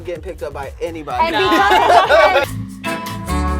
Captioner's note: group laughs; overlapping chattering; slow bossa nova music